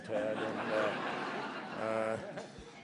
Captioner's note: laughter